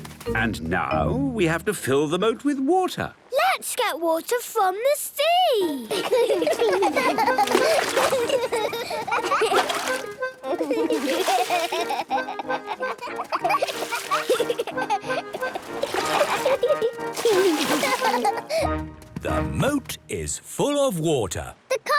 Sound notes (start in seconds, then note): 5.9 excited laughter